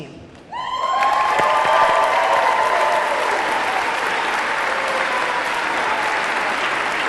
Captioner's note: audience cheering; audience clapping